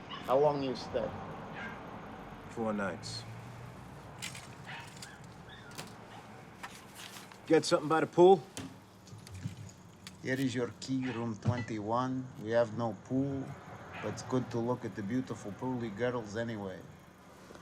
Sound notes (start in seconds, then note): 4.0 keys rattling; 6.0 dog barking